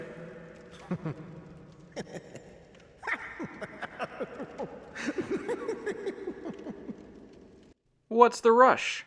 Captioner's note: laughs